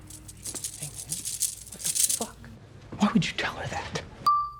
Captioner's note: jewelry jangles